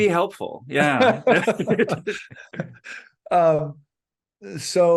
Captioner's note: laughter